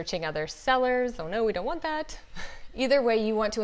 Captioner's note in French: laugh